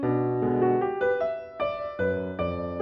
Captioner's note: none